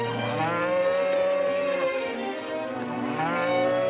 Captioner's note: cows mooing